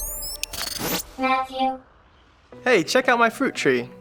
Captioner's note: computer Voice